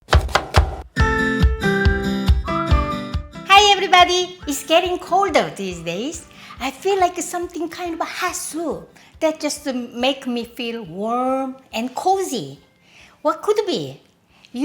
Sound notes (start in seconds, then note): 0.0 knife chopping; 0.1 cheerful music